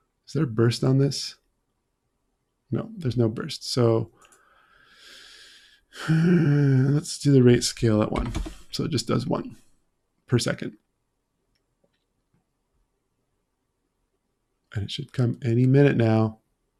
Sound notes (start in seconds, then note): 5.9 heavy sighing